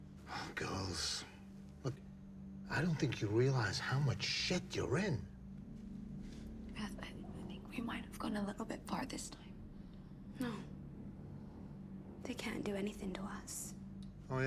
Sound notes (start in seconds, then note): none